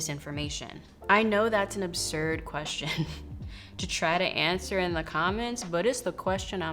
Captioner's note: laughs